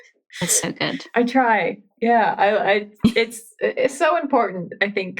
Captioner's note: laughs